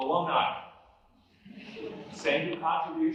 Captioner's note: laughter